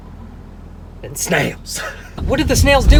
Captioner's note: laughs